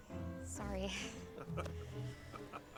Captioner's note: chuckles